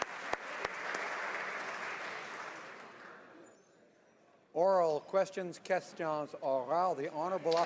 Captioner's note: applause